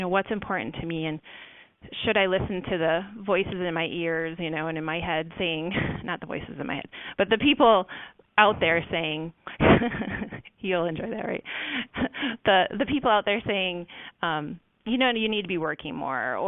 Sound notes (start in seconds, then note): 9.6 laughs